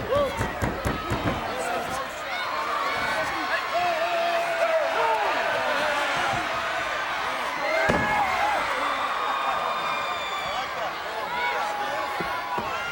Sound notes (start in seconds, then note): 9.6 crowd cheering